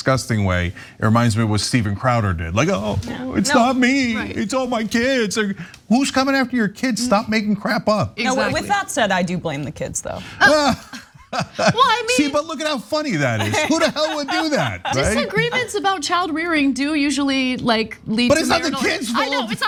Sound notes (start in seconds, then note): 13.3 laugh